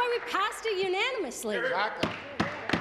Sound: applause

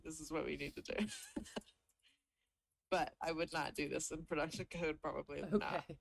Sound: chuckles

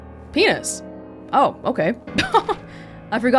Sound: chuckles

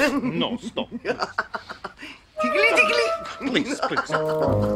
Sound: giggles

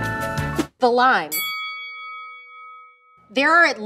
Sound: bell dings

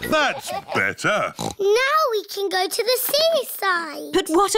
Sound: oinks

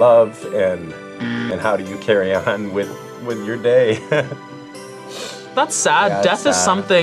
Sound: laughs

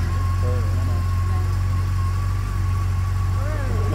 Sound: bike starting and revving

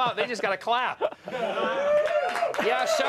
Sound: applause

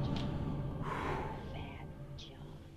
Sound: sighs

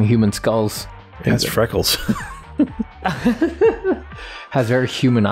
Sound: laughter

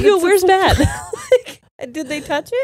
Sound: both laughing

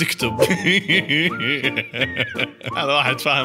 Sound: laughter

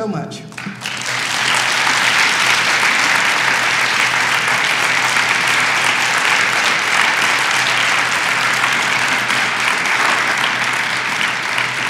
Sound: clapping

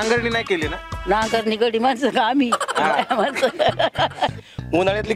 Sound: giggling

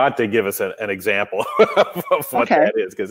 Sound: laughs

